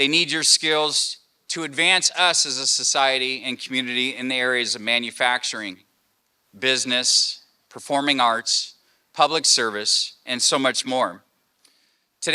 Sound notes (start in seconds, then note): none